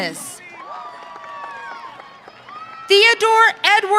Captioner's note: audience cheering